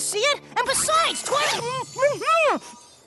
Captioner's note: tinkling